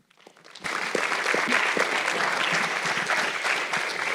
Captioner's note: audience clapping